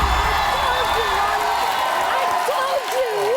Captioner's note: crowd cheering